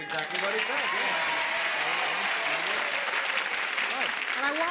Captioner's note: audience cheers